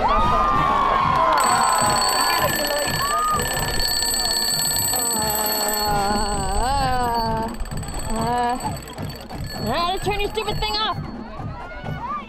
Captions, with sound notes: *Alarm clock rings* How do I turn your stupid thing off?!